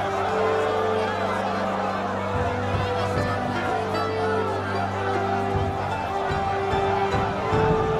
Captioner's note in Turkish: Kalabalık bağrışma sesleri